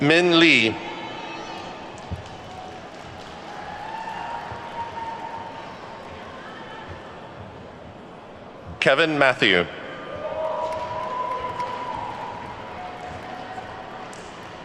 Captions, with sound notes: Min Li. (attendees clapping) Kevin Mathew. (attendees whooping and clapping)